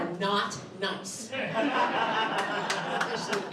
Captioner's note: laughter